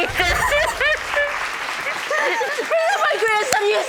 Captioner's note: sobbing